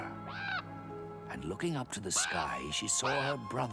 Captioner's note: ravens squawking